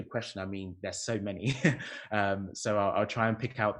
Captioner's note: chuckles